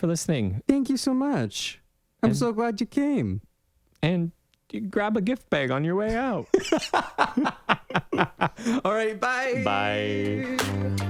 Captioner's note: laugh